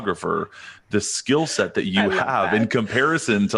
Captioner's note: chuckles